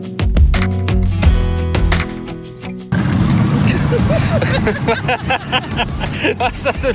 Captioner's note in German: gelächter